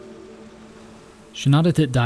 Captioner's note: gentle music continues; waves crashing